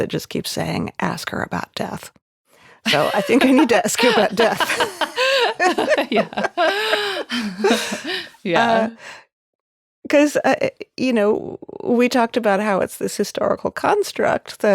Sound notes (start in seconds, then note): 2.8 laughing; 6.0 both laughing